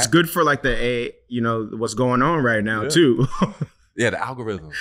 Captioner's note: chuckles